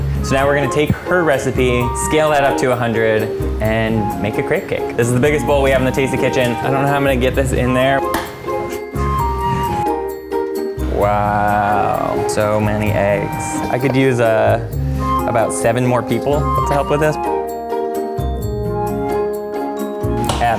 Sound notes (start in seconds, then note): 8.1 egg cracks; 8.1 playful flute music; 17.3 playful flute music